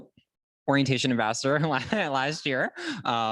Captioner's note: laughter